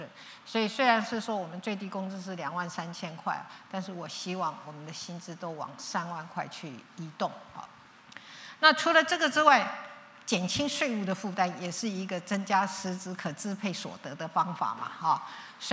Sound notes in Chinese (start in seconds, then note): none